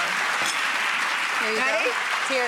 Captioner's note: applause